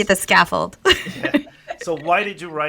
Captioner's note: laughs